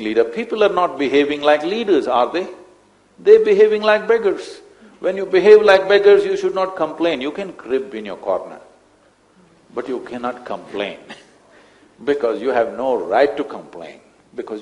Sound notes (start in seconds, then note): 11.4 laughs